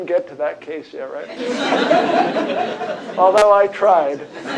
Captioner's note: laughter